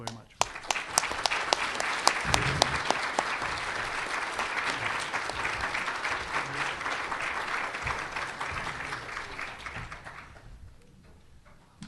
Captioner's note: applause